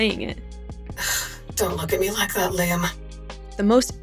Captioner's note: sigh